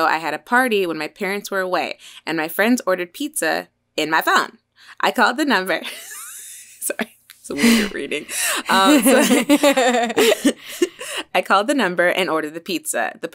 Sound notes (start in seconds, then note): 7.5 all laughing; 7.5 laughs